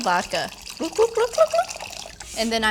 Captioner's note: mouth bubbling